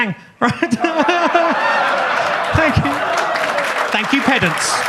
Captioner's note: audience laughs; audience claps